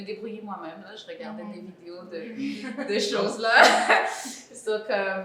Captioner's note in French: rires